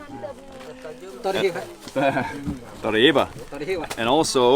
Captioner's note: speaking in foreign language